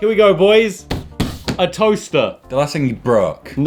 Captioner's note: drumming on table